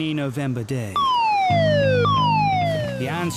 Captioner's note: alarm blaring